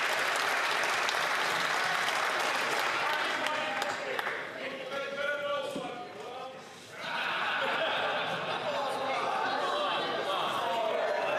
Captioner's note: some Applause